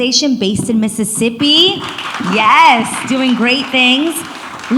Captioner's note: audience applauds